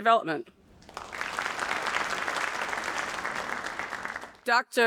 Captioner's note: audience applauding